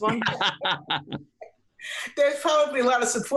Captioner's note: laughs